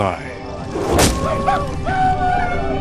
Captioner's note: Native American warriors shout